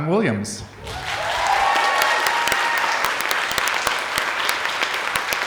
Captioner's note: audience applauding